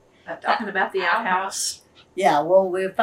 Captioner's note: laughs